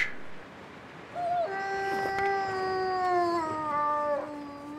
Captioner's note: wolf Howls Again